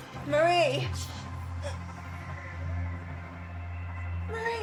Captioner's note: gasps